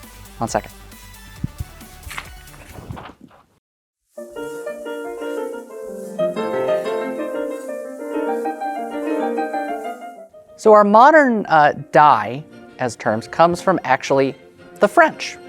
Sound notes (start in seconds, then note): 1.7 papers rustling; 4.2 upbeat classical music playing; 4.2 song ends